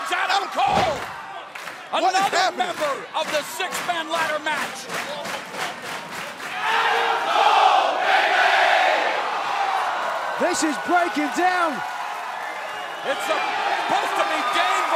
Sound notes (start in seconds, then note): 6.9 crowd cheering